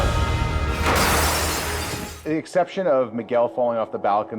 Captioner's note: glass shattering